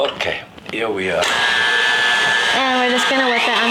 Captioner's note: mixer whirring